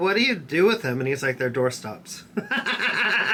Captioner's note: laughs